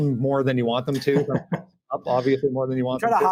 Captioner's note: laughing